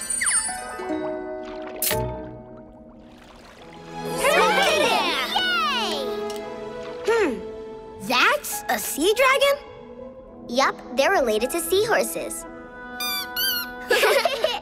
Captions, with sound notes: - You did it! - Yay! Hmm. That s a Sea Dragon? Yep. They're related to Sea Horses. [squeaking] [laughing]